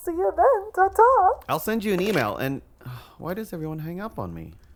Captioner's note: sigh